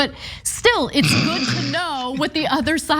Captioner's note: laugh